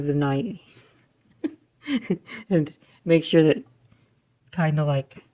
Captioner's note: chuckling